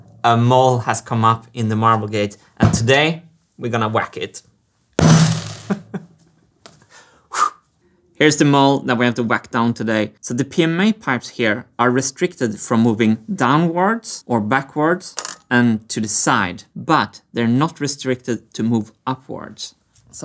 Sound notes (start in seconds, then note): 5.0 whack; 5.6 chuckles